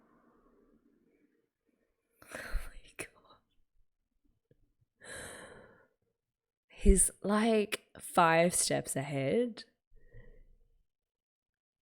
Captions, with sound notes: [whispers] Oh my god. He's like five steps ahead.